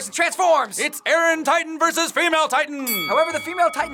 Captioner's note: bell dinging